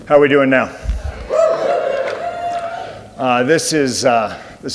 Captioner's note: audience cheers